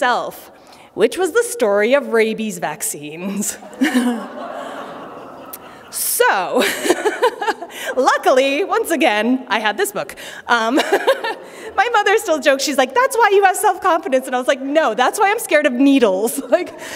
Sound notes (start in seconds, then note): 3.5 laughter; 10.7 laughter